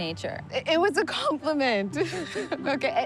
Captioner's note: laughs